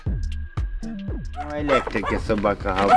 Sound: A dog is barking

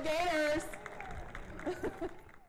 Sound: cheering and Applause

